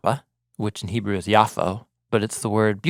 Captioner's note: speaking in Hebrew